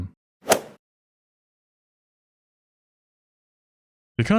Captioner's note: golf ball hit sound